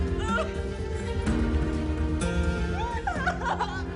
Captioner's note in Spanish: Sollozos